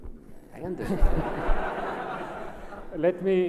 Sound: laughs

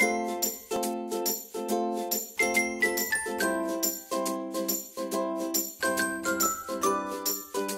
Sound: brand chimes

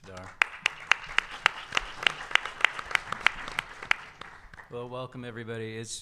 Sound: audience applause

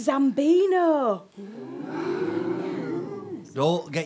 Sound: audience oohs

